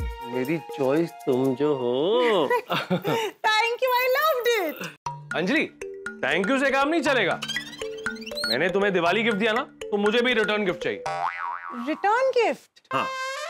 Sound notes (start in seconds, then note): 2.3 laughing